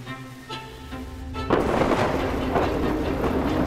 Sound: dramatic music; thunderclap

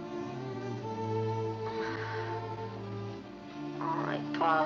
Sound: sighs

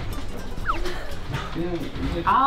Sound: laughter

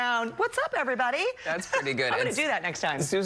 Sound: laughter

